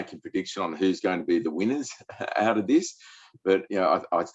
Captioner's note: chuckles